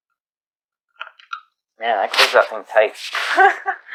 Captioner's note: laughs